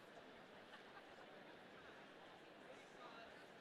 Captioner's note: none